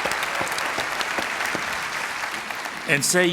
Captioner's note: applause